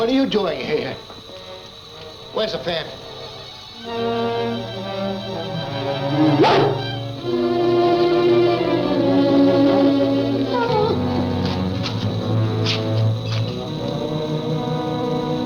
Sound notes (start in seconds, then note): 3.7 suspenseful music; 6.3 Devil barks; 10.9 Devil whines; 12.1 soft ominous music